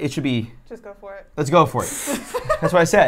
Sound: laughs

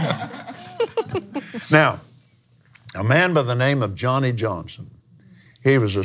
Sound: laughs

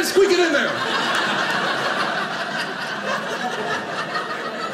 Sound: audience laughing

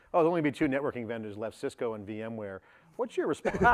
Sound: laughter

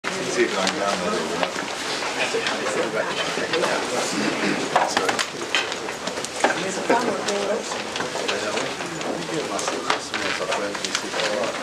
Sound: background chatter

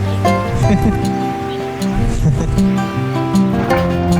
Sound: is laughing off-screen

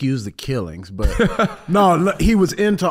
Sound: Iman laughing

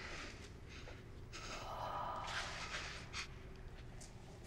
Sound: voice whispers

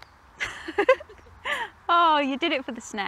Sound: laughs

